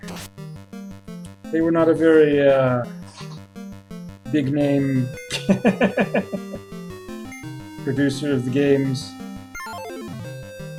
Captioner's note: chuckles